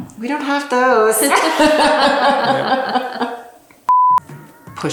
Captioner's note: laughs